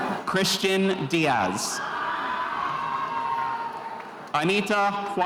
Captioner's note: spectators cheering